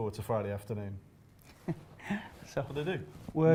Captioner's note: laughing